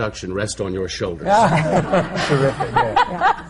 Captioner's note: laughter